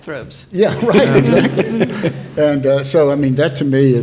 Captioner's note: panelists laughing